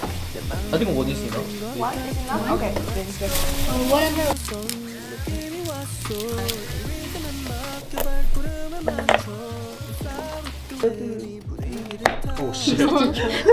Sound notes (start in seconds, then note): 11.8 carrot bumping; 12.5 laugh